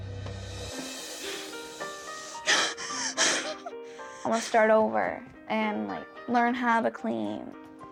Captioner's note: cries